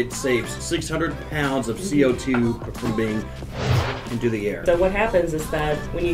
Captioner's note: whooshed